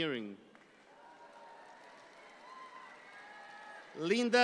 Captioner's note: audience applauds